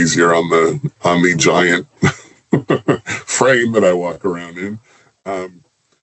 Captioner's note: chuckles